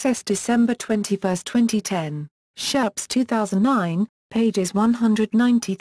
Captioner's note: in German